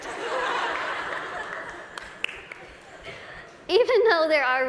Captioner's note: laughter